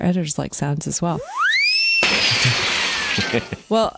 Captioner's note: machine whistling